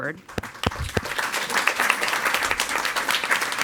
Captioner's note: all applauding